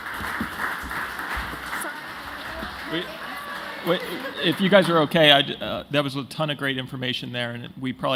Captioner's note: applause